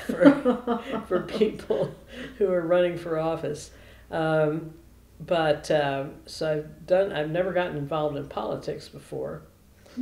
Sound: laughter

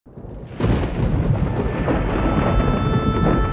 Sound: thunder rumbling

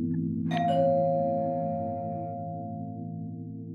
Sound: doorbell chimes

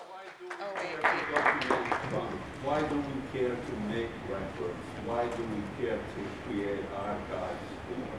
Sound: applause

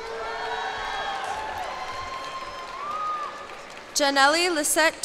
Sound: cheers and applause

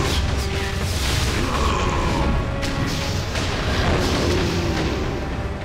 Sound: Appa grunting

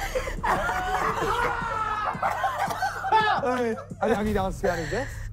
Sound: contestants and laughing; screaming

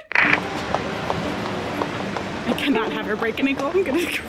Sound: shoes clicking

